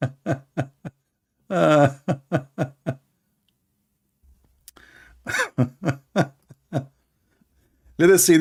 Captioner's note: Ketawa